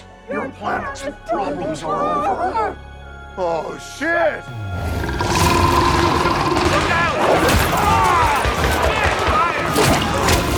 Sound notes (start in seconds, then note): 4.4 Steenium roars; 9.6 gunshots popping; 9.6 soldiers screaming